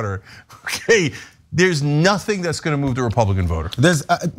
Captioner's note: laugh